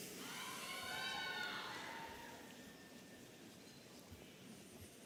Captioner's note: audience cheering